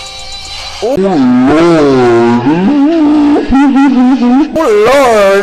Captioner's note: SLOW-MO Shrieks